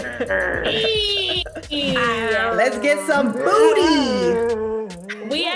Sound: laugh

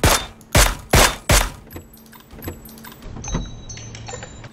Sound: click!

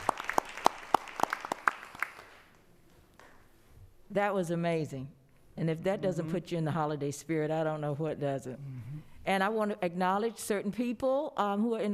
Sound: applause

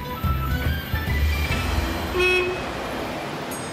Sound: music stops, honking

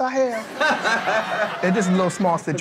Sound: laughs

